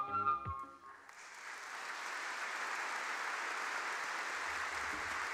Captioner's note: applause